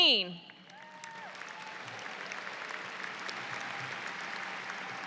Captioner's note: audience applauds